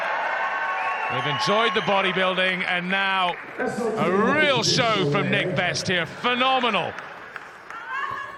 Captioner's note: applause; applause